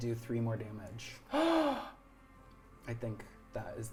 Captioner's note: gasping